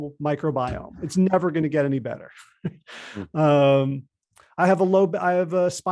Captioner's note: laughs